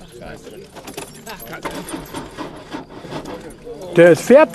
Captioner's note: starter sound, but no engine